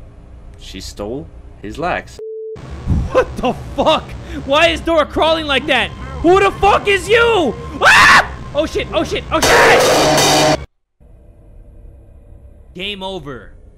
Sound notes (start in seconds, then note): 9.5 scream